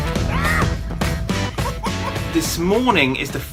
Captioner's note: laughs